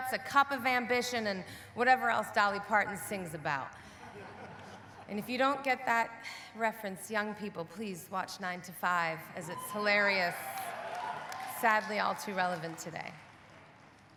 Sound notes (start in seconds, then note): 4.0 audience laughing; 9.4 audience cheering